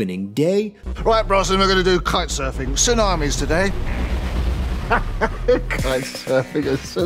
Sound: laughing

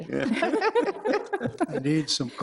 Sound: all laughing

